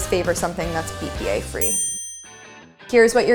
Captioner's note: ding